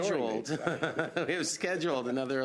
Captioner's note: laughter